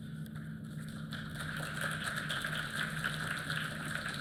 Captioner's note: applause